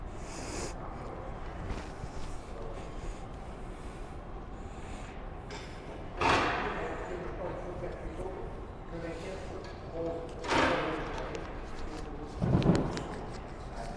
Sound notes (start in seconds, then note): 6.5 tool clangs; 7.9 workers talk in the distance